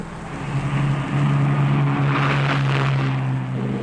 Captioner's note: engine roaring